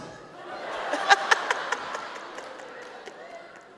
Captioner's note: audience laughs